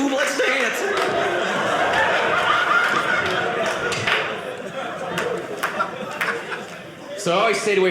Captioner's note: audience laughing